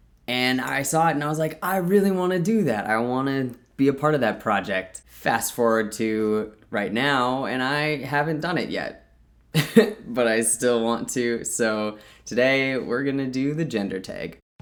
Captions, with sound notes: And I saw it and I was like I really want to do that. I want to be a part of that project. Fast forward to right now and I haven't done it yet. *laughs* But I still want to, so today we're going to do The Gender Tag.